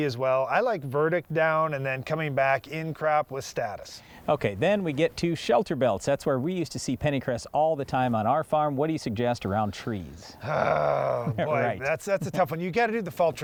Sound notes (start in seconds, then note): 10.4 groans